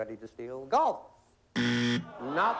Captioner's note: buzzer